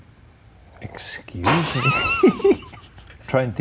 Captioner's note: both Laugh